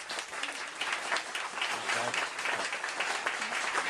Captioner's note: applause